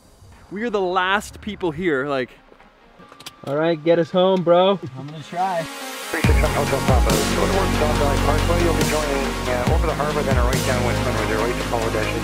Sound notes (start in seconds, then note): 6.3 radio chatter; 6.3 upbeat music